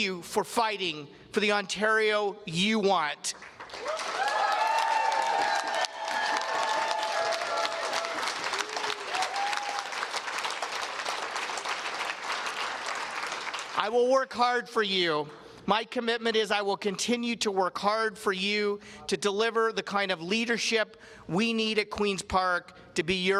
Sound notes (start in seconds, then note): 6.5 cheers and applause